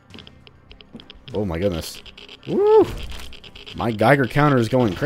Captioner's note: geiger Counter spiking